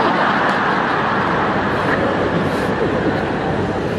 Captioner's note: laughing audiences